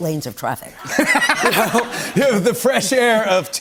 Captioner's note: laughter